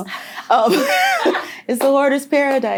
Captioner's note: laughter